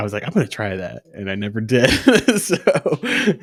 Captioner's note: laughs